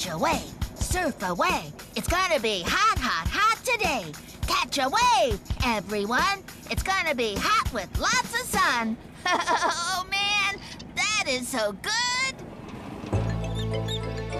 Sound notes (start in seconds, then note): 9.2 laughs